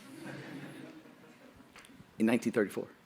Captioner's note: audience laughing